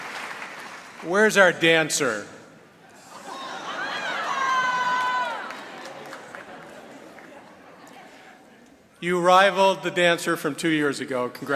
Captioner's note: applause; cheering